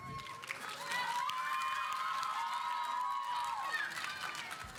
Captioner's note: audience applauding